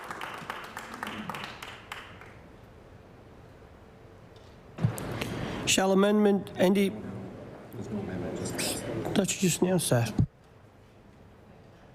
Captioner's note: applause